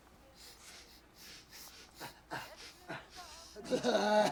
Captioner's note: sniffing; sobbing